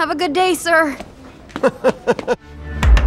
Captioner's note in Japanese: 中村の笑い声